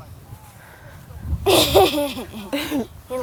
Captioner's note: laughs